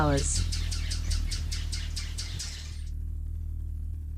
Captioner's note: birds chirping; bird's wing flapping